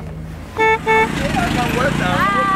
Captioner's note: Bajaj honking